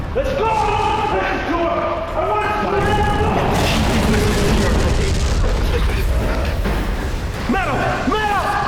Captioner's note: chaos/Yelling